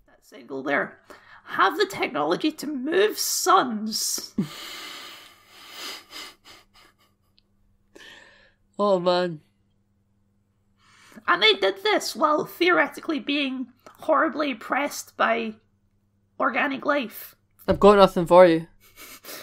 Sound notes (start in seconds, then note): 7.0 snicker